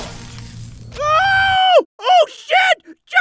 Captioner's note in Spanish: Grito